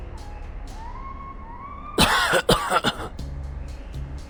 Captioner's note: coughing